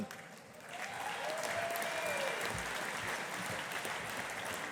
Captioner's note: audience applauding